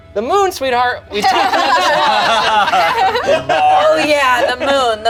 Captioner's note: group laughs